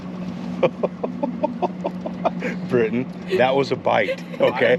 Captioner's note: laughing